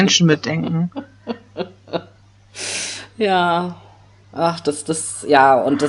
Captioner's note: laughs